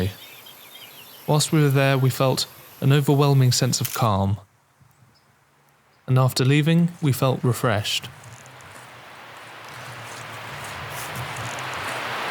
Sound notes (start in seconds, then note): 8.3 waterfall